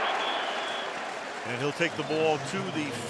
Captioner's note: whistle